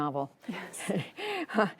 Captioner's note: laughter